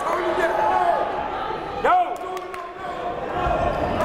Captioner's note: yelling